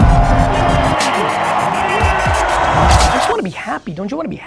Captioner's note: crowd cheering